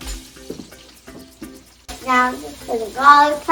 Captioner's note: sizzling pan